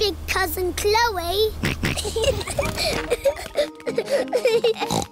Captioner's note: snorts; kids giggling